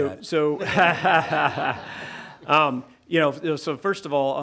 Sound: everyone laughing

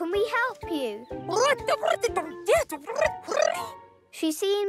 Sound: electronic chattering

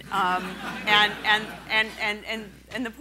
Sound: laughing

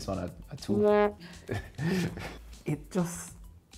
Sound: low horn blows

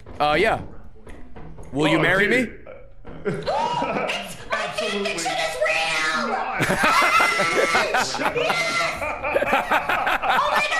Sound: gasps; screams

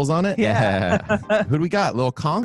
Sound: in Unison

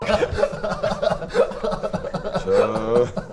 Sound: laughs

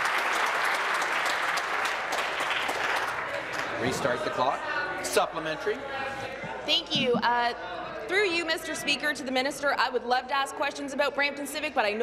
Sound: applause

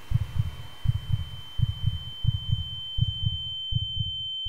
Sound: heartbeat quickening, ears ringing

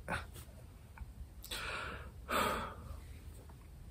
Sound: breathes deeply

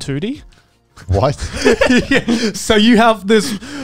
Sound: laughing

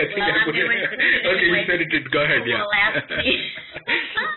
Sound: laughter

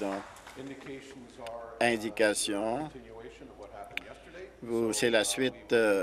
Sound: applause

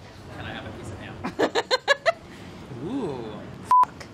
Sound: laughs

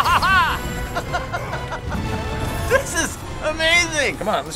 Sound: laughing

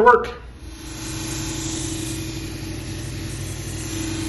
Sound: wheel grinding

